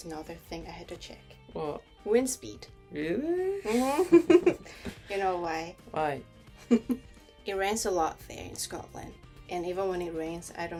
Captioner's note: laughs